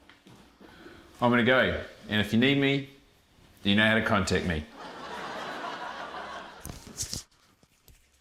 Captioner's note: laughter